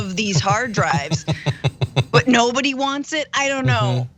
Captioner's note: laugh